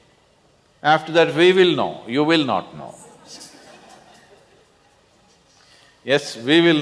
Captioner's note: laughter